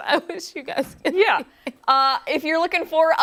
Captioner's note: laughter